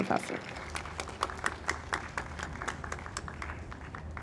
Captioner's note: audience applauds